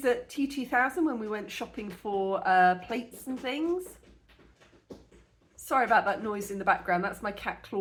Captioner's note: scratching